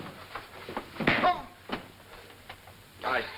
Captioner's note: Bill exclaims; punch thuds; Armstrong exclaims